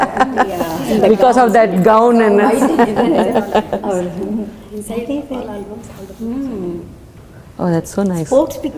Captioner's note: indistinct Chatter